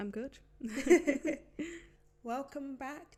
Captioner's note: laughs